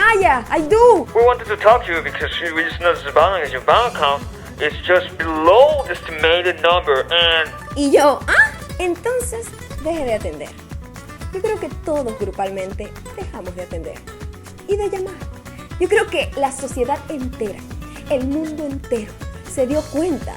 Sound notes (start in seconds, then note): 1.3 voice speaking in English with interference